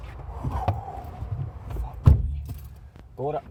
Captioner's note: exhales